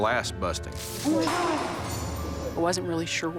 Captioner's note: glass shattering